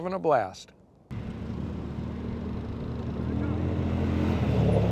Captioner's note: engine rumbling